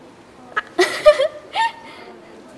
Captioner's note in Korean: 웃음